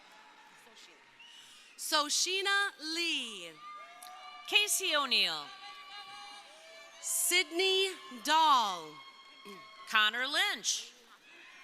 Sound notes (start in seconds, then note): 3.1 crowd cheering; 5.8 crowd cheering